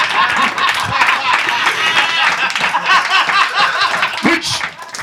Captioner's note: audience laughs; laughs; audience applause